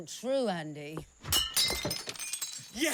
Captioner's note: glass shattering